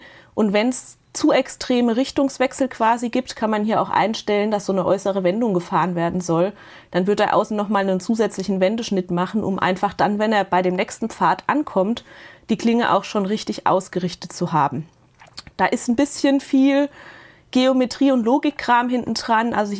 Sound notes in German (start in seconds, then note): none